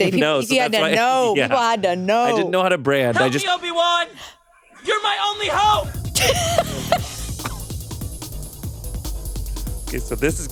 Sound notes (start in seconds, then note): 6.1 chuckles; 7.3 upbeat music